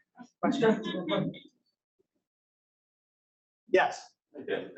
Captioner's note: audience laughing